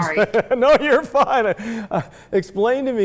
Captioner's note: laughing